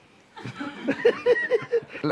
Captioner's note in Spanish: Risas